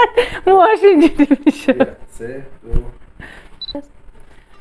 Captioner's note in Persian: خنده